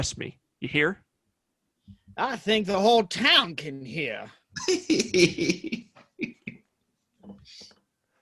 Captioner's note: COLE starts laughing